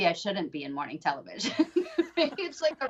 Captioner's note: laughing